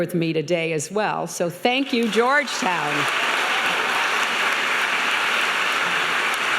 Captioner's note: applauding